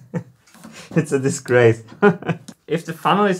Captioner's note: laughs; chuckles